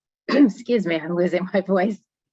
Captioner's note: clearing throat